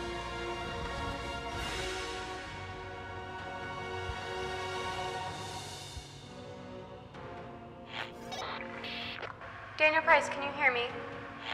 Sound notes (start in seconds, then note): 7.9 radio static and bleeps